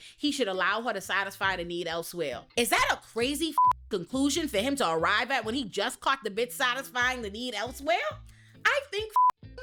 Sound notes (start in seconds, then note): 3.5 beep; 9.1 beep